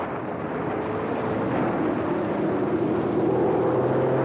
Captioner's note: airplane whirring